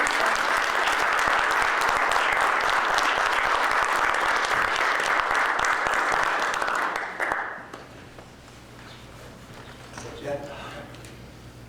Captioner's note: applause